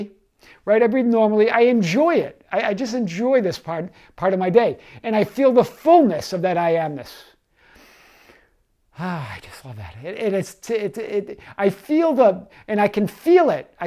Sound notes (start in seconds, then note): 7.5 inhaling